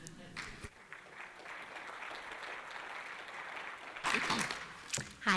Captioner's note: applause